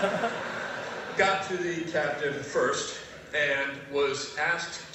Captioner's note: laugh